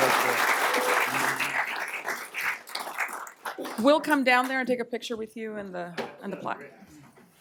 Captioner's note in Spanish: aplausos